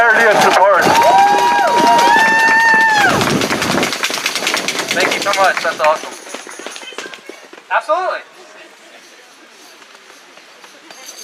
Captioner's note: applause